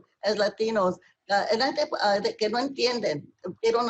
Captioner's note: speaking spanish